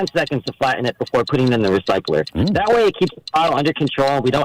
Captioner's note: laughter